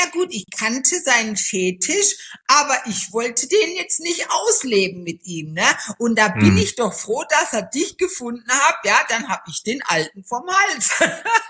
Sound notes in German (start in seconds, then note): 6.3 räuspern; 10.8 gelächter